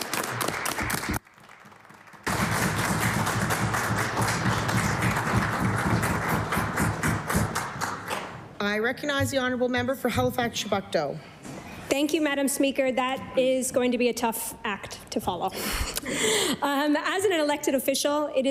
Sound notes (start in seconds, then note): 1.7 applause